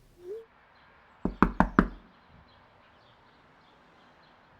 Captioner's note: door knocking